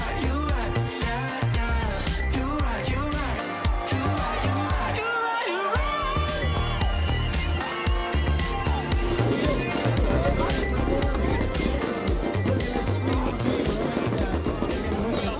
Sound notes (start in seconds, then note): 4.2 crowd cheering; 10.6 people chattering